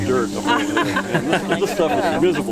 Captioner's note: laughing